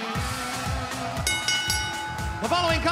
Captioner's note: bell ringing